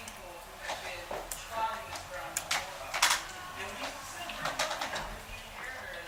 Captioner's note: clattering